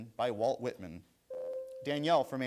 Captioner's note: bell rings